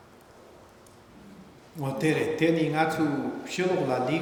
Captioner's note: speaking tibetan